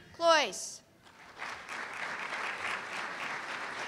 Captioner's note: applause